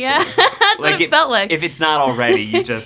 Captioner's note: laughs